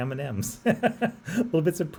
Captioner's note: laughs